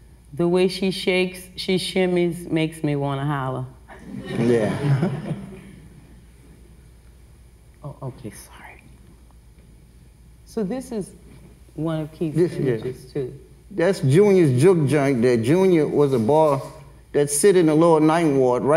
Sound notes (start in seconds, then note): 4.1 everyone laughs